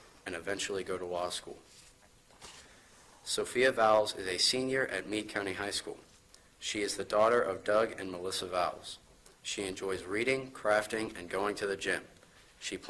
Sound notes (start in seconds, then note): none